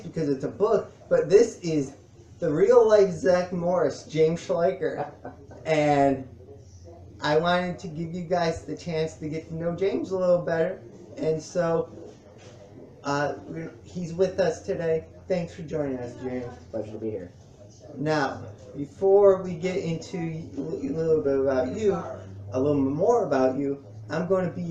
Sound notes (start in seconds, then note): 4.6 laughs